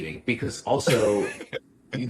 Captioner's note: laughs